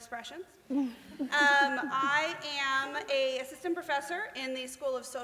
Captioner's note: laughter